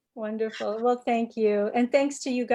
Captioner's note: laughing